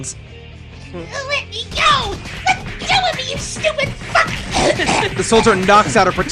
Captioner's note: chokes